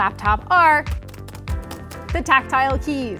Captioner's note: keys tapping